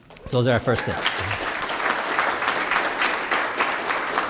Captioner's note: applause